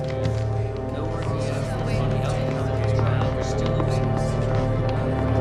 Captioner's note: people clamoring